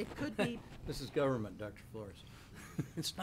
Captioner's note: laughs